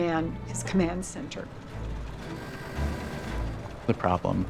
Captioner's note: car horn blares